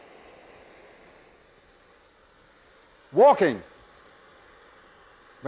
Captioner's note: torch hissing